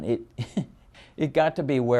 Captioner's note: laughs